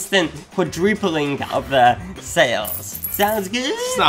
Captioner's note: coins tinkling